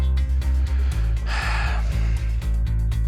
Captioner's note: sighs